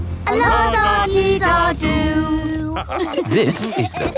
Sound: laughter

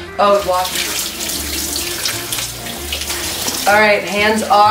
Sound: water running

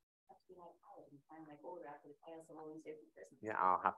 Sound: faintly speaking

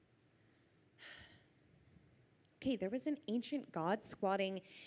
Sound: sighs

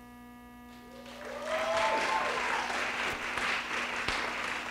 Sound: audience clapping

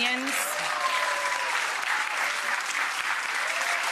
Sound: applause

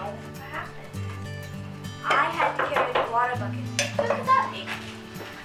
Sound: knock on the door

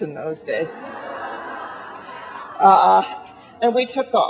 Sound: audience laughing

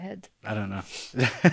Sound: laughs

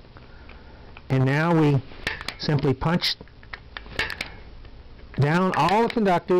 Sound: clicks

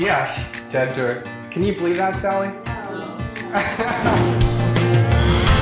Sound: laugh

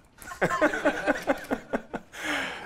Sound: laughter

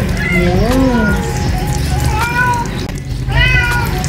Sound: Marble Meowing; Mapa Meowing

